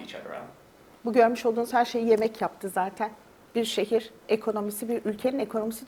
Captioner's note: speaks in Turkish